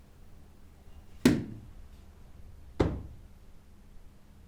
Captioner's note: book thudding